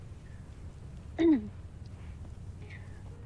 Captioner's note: clears throat